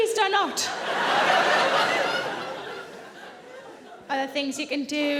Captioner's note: audience laughing